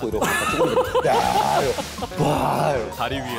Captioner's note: belching